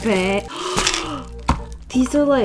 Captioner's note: gasps